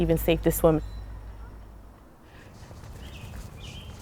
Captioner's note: train rumbles